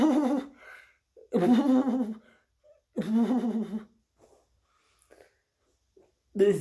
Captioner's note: chuckles